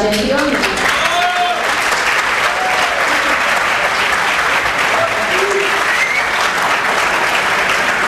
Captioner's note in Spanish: aplausos